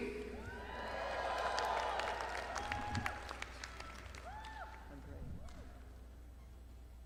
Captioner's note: audience cheering; audience clapping